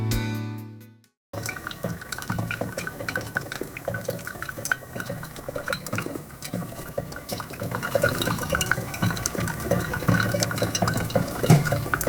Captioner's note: sound of coffee maker